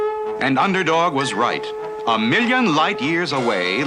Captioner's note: none